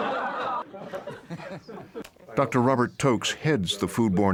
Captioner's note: laughter